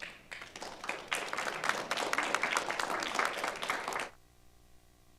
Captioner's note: audience applauding